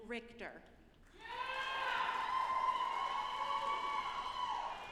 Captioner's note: audience applauding